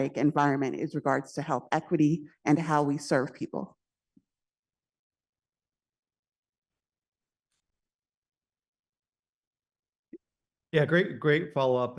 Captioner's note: pause